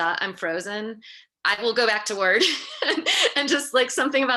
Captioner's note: laughs